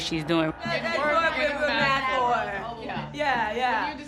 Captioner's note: mimicking Sahar